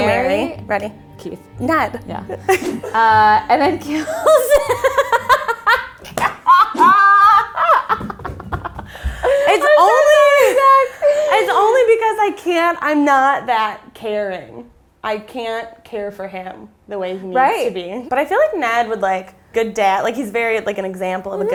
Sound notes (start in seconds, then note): 2.4 laughter; 4.0 hysterically laughs